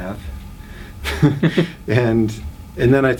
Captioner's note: both laugh